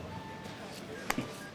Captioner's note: chuckles